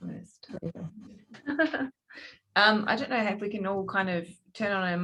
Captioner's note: chuckling